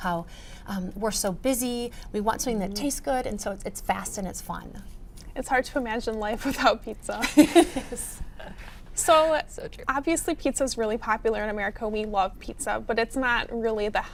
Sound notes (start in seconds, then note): 7.2 laughs